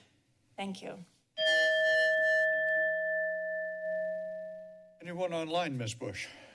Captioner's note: bell rings